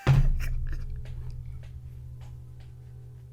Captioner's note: laughing